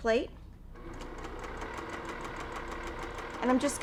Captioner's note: sewing machine whirring